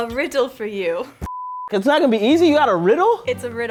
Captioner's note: beep